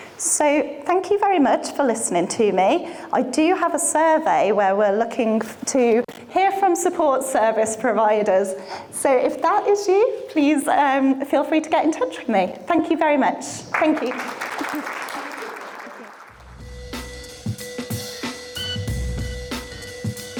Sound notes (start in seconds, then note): 13.7 audience applauding; 16.3 upbeat music